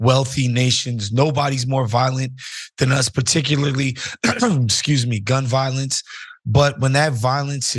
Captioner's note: cough